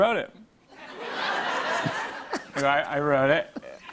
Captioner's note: laughter